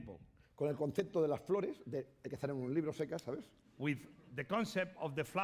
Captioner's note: speaking spanish